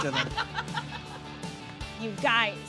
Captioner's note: person Off Camera laughing